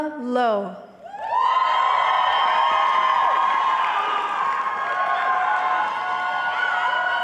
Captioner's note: audience cheering